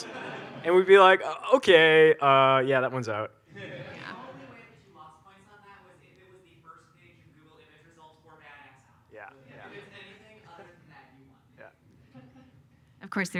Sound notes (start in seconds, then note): 0.0 audience laughs; 3.5 audience laughs